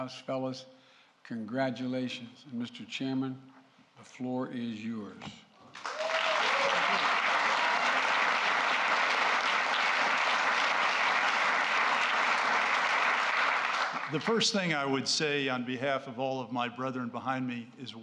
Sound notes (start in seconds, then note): 5.7 applause